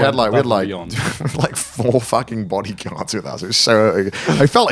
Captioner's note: chuckles